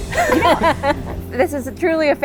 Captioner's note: laughs